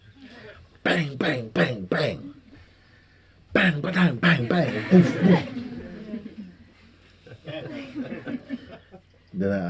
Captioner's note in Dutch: gelach